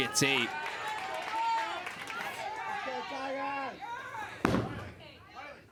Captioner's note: crowd cheers and applauds